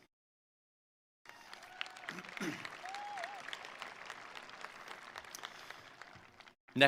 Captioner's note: attendees cheering; attendees applauding